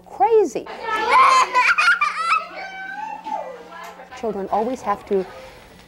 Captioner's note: classroom chatter and laughter